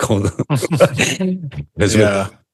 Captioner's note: laughing